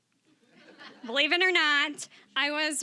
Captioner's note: audience laughing